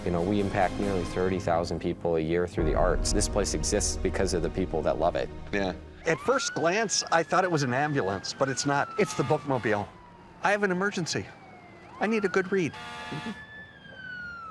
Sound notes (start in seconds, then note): 6.1 sirens wailing